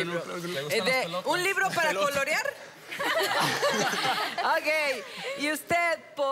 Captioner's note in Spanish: Risas